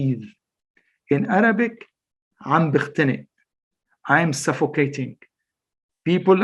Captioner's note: speaks Arabic